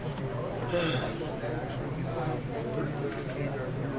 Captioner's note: sigh